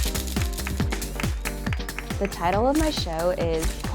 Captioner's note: applause